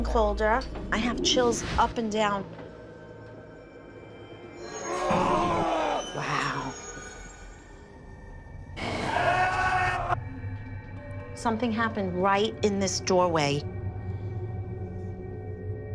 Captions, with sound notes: I have chills up and down. [shouting] Wow. [shouting] Something happened right in this doorway. [tense music]